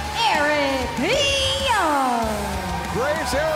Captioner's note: crowd cheering